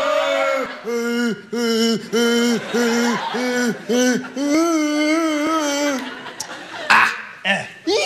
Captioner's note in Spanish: cantan; se burla